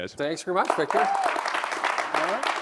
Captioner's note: applause